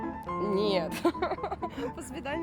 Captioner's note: laughter